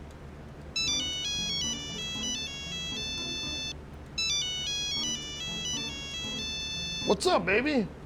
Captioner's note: Bob's cell phone rings